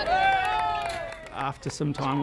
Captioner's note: children speaking Afghan language; cheering and clapping